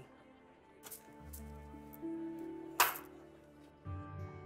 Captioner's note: coins jingle